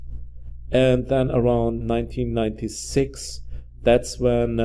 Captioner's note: none